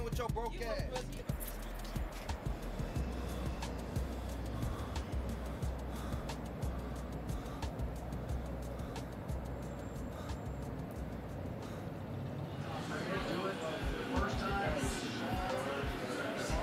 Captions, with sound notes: with your broke ass. - Fuck you. (Riley breathing heavily)